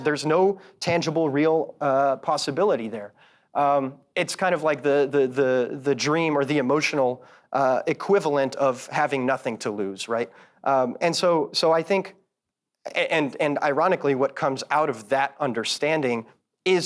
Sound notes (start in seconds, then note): none